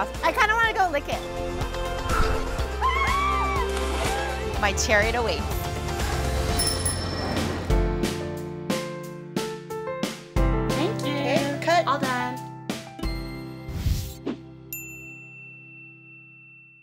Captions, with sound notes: I kinda want to go lick it. (screaming) My chariot awaits. (bell ringing) Thank you, take, cut, all done.